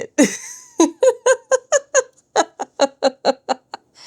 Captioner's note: laughter